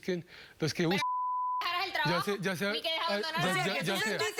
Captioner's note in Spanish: Bip